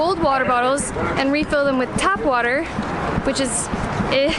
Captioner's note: groaning